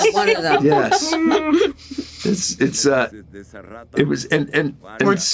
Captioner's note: laughter